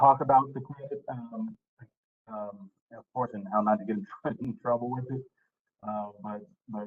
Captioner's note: laughter